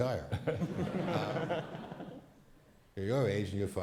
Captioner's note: crowd laughs